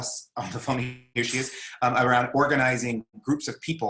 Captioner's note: speaking faintly